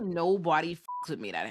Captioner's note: beep